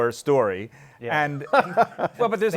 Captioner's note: laughs